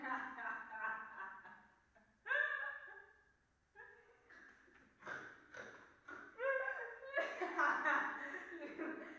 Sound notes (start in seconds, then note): 4.3 Popova snorting